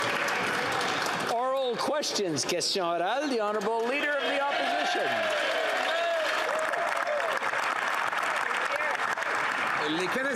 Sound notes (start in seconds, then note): 3.2 some Applause